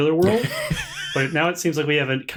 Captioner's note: laughter